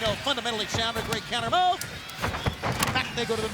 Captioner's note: bodies thudding